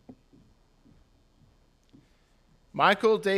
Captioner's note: none